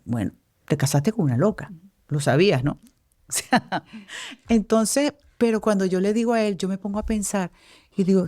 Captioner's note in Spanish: risas